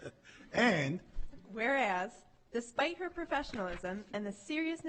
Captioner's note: laughing